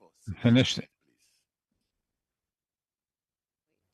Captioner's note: speaking French